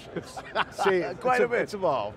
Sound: laughing

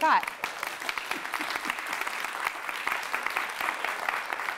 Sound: audience clapping

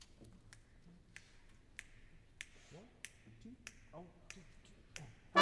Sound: conductor snapping fingers

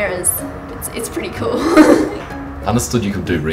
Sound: giggles

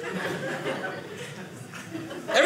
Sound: audience laughing

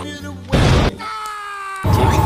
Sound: explosion

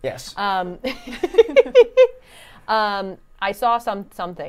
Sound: laughs

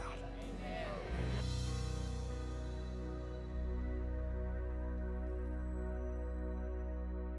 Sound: audience "Amens"

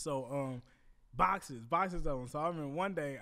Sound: none

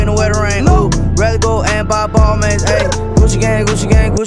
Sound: brr

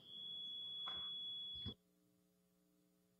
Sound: audio feedback

